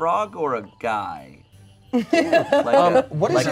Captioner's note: laughs